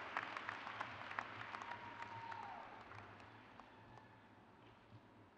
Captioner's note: crowd cheers